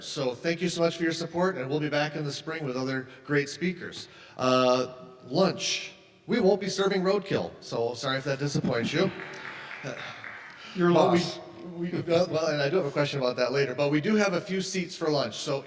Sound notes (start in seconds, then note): 8.6 audience laughs